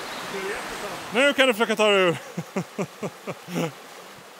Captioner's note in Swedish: Skratt